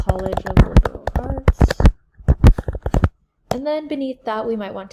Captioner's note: typing sounds